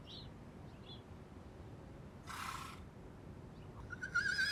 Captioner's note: birds chirping; horse neighing